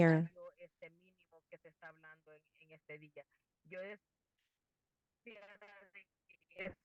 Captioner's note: speaking in foreign language